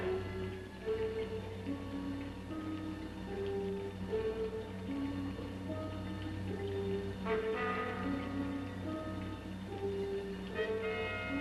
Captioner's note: ominous music; liquids bubbling